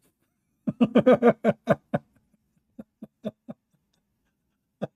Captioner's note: Ketawa